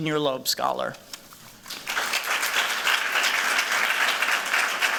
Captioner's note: applause